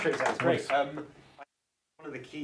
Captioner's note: applause